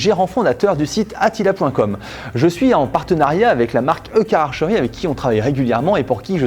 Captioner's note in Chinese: 英语